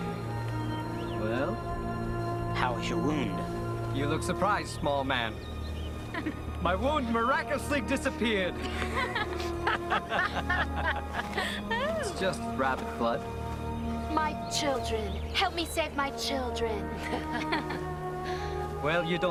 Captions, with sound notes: - Well. - How is your wound? - You look surprised, small man. - My wound's miraculously disappeared. (laughing) It's just rabbit's blood. - My children. Help me save my children. (laughing)